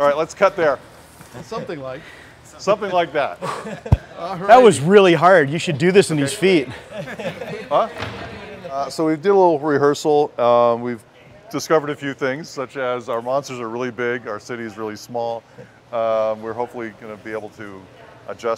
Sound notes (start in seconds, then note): 6.7 laughter